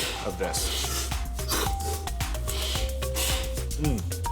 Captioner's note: slurps